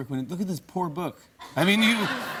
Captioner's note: laughter